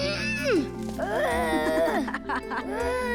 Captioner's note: laughing